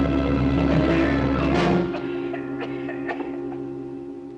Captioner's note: coughing